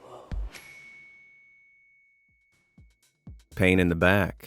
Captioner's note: bell dings